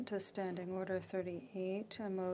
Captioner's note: speaking French